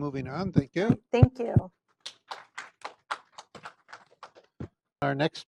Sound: applause

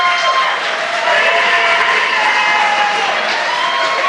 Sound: applause

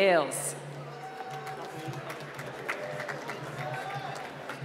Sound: applause

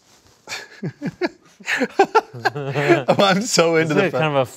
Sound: laughing

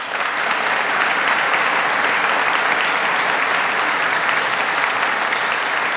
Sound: applause

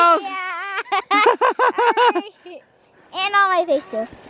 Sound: laughing

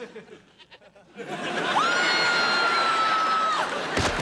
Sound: screaming

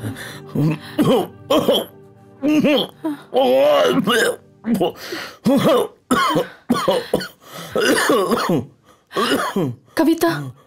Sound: coughs

